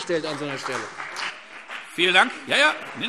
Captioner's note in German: Beifall CDU und BÜNDNIS 90/DIE GRÜNEN